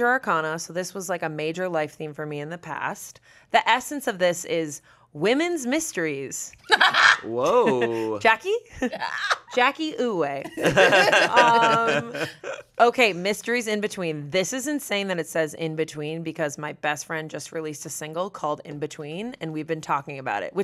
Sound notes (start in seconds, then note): 6.7 laughs; 10.4 everyone laughs